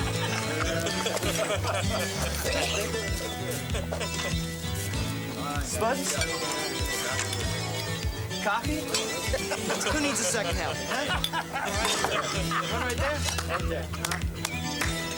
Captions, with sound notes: - Spuds? Coffee? Who needs a second helping, huh? (men laughing) Right there, right there.